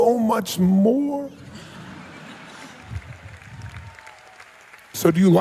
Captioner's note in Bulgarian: смах в залата и аплодисменти